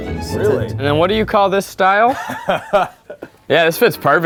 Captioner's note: Eugene laughs